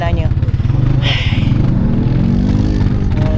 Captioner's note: sigh